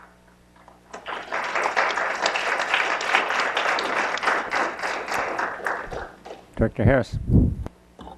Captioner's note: applause